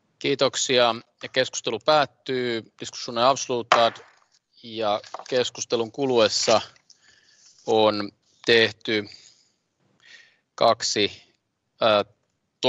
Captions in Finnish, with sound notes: - Kiitoksia. Keskustelu päättyy. Diskussionen avslutad. [nuijan kopautus] Keskustelun kuluessa